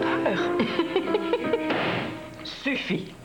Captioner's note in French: Rire